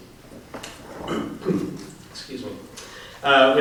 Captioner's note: clears throat